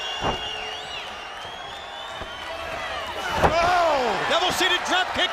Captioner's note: crowd cheering